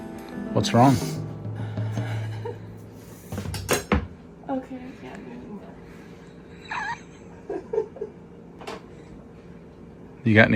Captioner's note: laughing